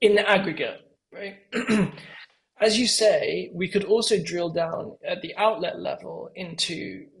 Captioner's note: cough